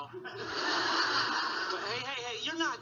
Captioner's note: audience laughing